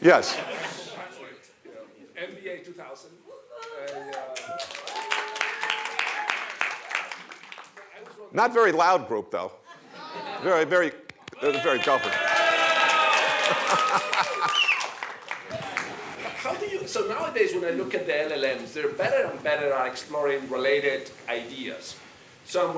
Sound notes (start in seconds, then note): 5.6 applause; 11.2 applause